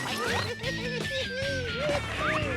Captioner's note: Oswald laughs